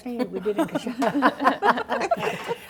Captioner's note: laughter